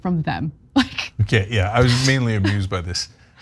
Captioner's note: laugh